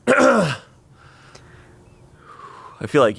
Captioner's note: clears throat